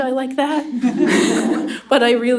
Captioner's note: laughter